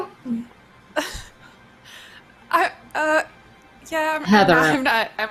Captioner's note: laughs